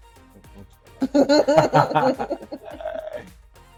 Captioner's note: laughs